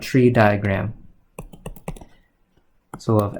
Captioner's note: keyboard clicking